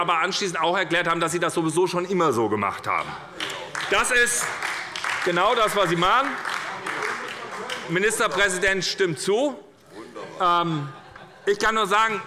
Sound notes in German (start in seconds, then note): 3.2 Heiterkeit und Beifall bei der SPD - Zurufe von der CDU